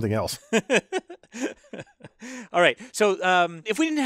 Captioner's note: laugh